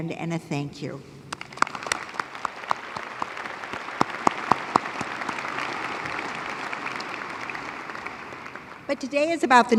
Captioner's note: applause